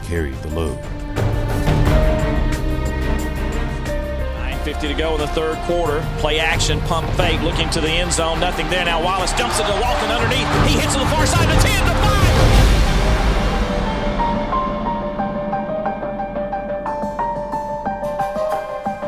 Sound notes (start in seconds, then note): 4.7 voiceover; 14.2 tense music